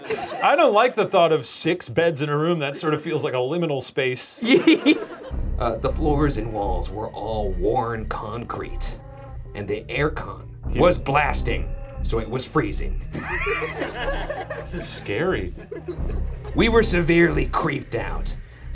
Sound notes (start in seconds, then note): 4.4 laughs; 4.5 ominous music; 13.1 laughs